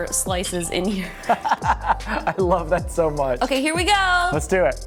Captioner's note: laughs